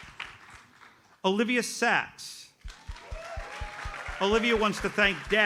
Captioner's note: audience applauds